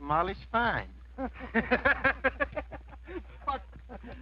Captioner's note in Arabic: الرجال يضحكون